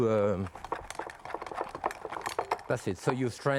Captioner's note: strainer rattling